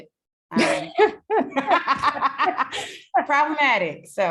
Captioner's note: all laughing